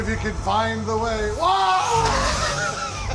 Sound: yells; chuckles

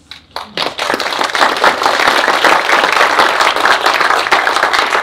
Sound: audience applauds

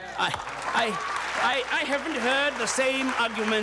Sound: audience applauding

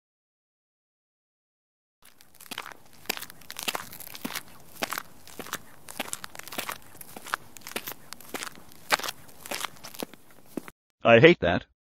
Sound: Bone cracking of Satan Satanman

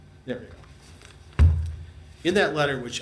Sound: file thuds

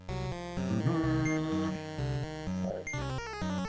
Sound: hums

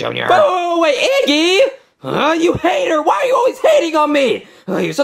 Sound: grunts

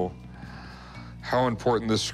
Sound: sighs

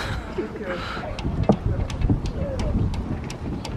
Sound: chuckles

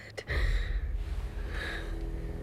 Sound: exhales

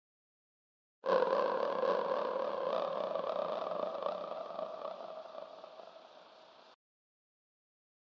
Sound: sound of long growl

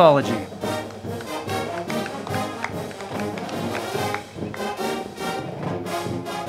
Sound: band music; crowd clapping

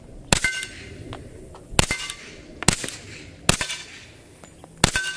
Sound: gun shots

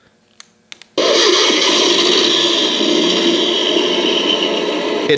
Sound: engine sounds

